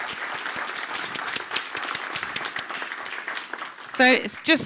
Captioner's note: audience claps